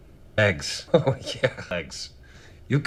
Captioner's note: chuckling